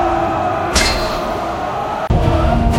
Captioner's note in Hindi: चीखने की आवाज़